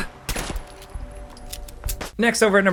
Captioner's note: player grunts